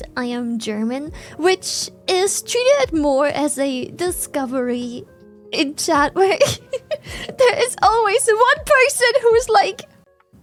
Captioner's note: laughs